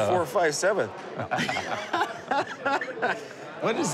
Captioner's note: laughing